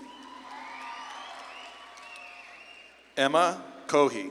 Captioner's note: audience claps and cheers